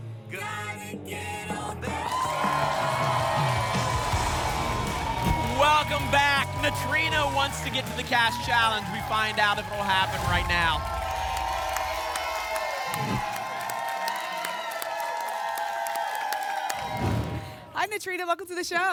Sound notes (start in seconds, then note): 2.1 applause and cheering; 11.6 applause and cheering; 12.9 whoosh; 13.9 applause and cheering; 16.8 whoosh